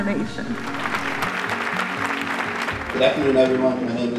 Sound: applause

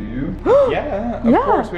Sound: gasps

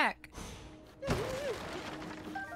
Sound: sound of Civilian Terror

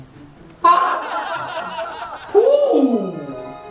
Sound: laugh

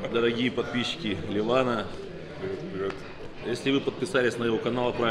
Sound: speaking in Russian

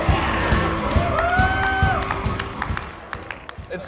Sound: cheers

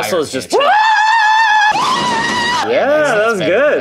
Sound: screams

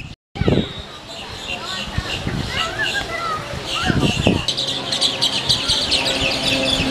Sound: birds chirping

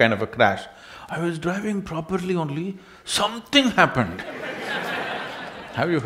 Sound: laughs

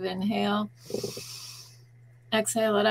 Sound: inhaling

